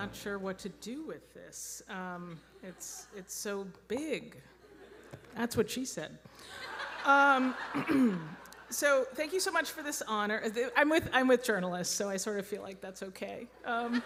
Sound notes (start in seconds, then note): 6.4 audience laughing